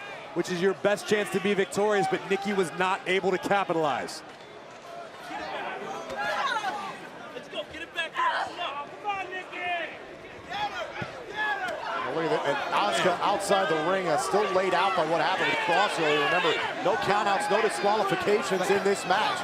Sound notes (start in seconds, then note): 13.7 crowd chatter